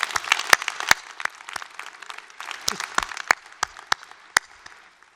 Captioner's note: applause